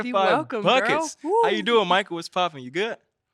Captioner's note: exclaiming